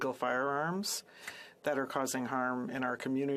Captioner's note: speaking French